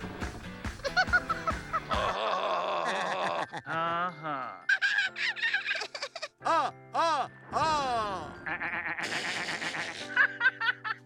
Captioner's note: Sesame Street characters laughing